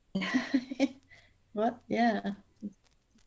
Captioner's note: chuckles